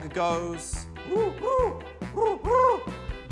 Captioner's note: hoots